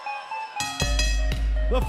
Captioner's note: bell ringing